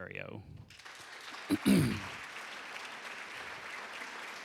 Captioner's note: applause